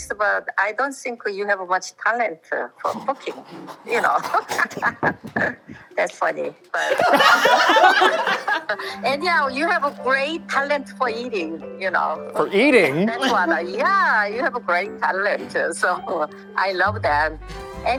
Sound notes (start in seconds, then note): 6.7 laughing; 6.7 all laughing